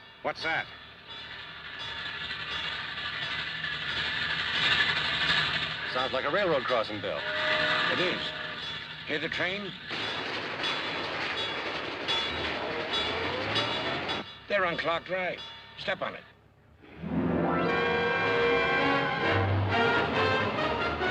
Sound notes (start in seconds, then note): 0.2 crossing bell; 4.6 crossing bell; 6.7 train whistle; 14.4 crossing bell